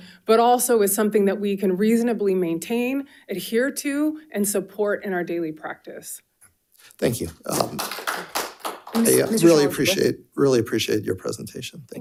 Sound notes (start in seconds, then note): 7.4 audience applauding